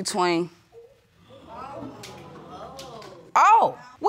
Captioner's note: audience gasps